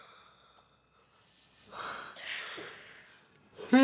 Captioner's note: sighs